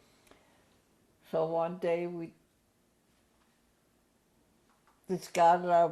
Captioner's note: pauses for 3 seconds